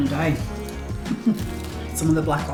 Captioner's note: laugh